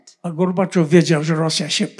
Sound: foreign language

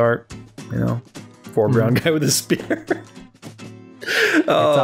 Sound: laughter

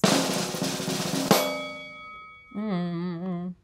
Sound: drum roll; bell dings

